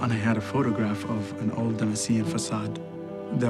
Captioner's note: speaking foreign language